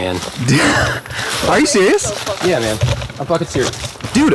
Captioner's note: laughs